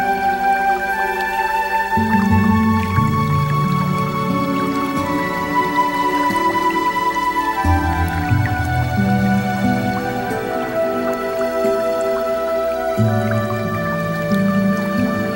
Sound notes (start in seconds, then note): none